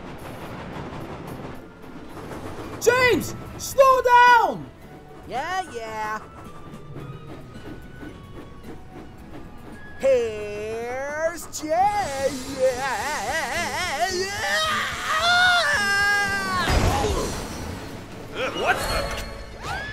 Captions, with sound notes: "James! Slow down!" "Yeah, yeah!" "Heeere's James...[STARTS SCREAMING]" "Ugh!" "What the..?!"